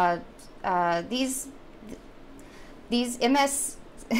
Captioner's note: chuckles